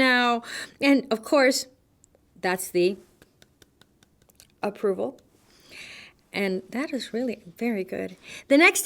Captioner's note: clap clap